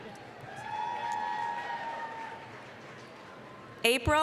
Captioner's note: applause, cheering